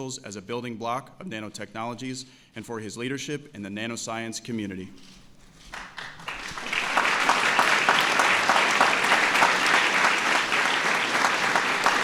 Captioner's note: applause